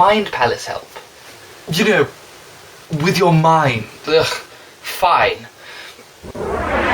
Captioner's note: sigh